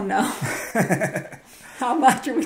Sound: laughs

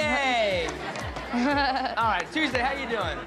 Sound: giggles

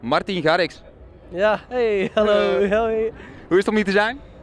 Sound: laughing

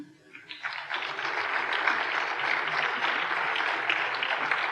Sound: applause

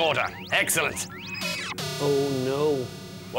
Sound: buzz!

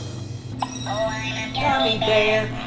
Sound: magic sound

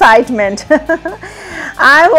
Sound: giggles

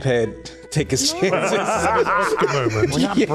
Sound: laughs

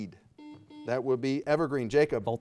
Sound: buzzer beeping

